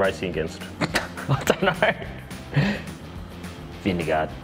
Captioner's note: laughing